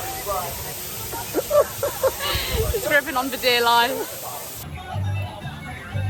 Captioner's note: laughter